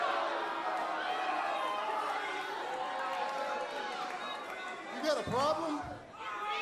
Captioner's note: crowd chatter